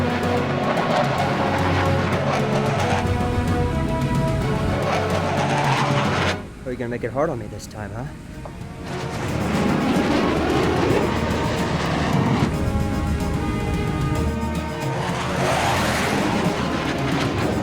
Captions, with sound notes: Oh, you're gonna make it hard on me this time, huh? (tense music) (aircraft whirring)